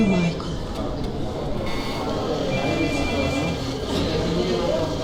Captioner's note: courthouse background noise